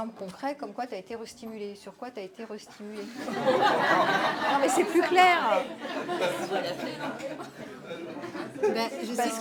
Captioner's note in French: rires